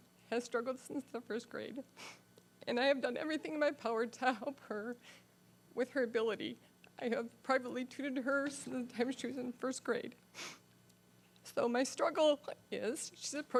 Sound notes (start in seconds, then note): 2.6 crying